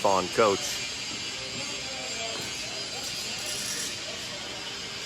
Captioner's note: machine whirring